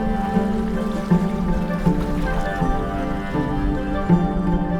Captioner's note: water splashing